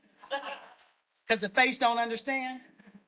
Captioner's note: audience laughs